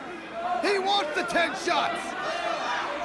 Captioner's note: crowd cheering